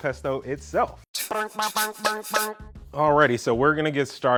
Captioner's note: quirky sound